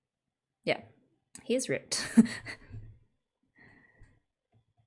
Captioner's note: laughs